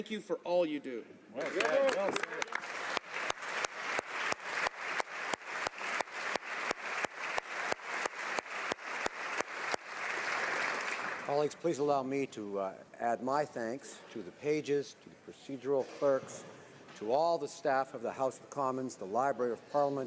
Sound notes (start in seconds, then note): 7.1 applause